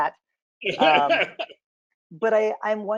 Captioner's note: laughs